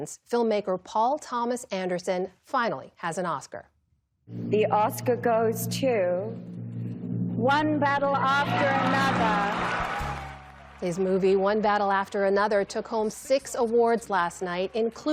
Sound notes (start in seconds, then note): 9.7 cheering